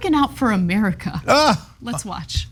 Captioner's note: laugh